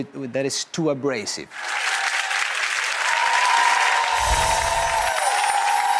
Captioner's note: audience applauding